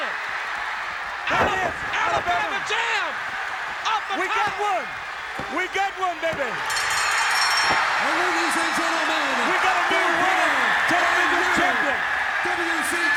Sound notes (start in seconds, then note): 2.4 crowd cheering; 6.6 bell ringing; 7.3 crowd chatter